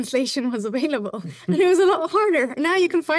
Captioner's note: chuckles